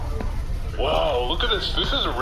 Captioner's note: hatches opening, general hubbub of a busy public space